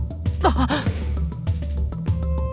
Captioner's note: gasp